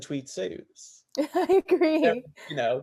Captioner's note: laughs